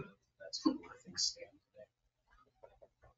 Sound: speaks distantly

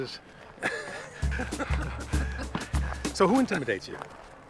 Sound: Kevin and Jeff laughing

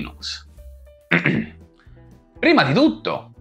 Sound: clear my throat

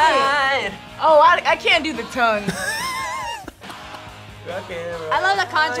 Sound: laughs

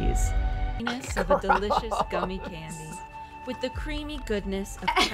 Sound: laughs

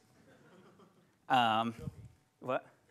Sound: laughs

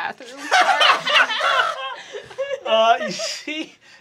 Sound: group laughing

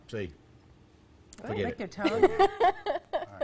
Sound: laughter

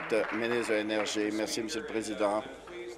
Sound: applause

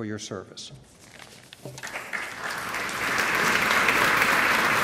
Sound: applause

